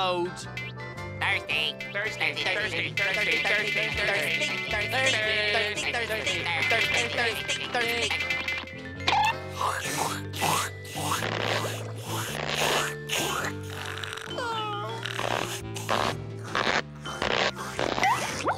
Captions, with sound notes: Thirsty! Thirsty, thirsty, thirsty, thirsty, thirsty, thirsty... [slurping]